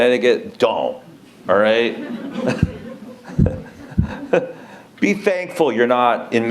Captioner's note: laughter